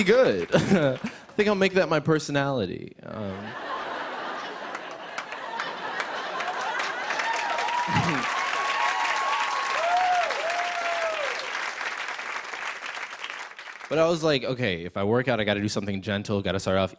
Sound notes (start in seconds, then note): 3.2 laughter; 6.8 cheers and applause